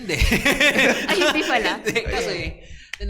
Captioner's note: laughs